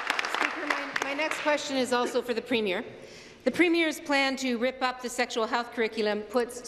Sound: applause

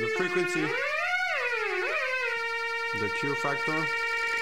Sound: computer beeping sounds at shifting frequencies

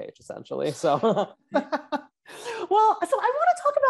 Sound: both laugh

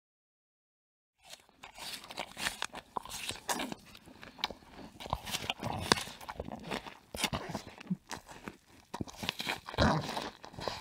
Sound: sound of animal eating flesh

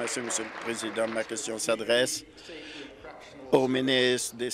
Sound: applause

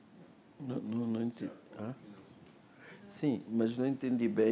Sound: speaking portuguese

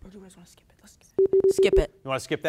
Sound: beep sounds

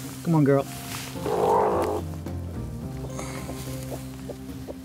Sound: chicken clucking

